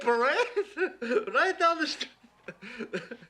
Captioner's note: laughs